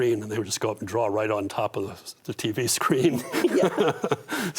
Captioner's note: laughs